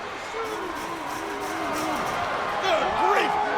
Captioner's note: cage clattering